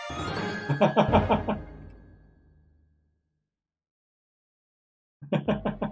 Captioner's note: friendship fanfare; laughs; chuckles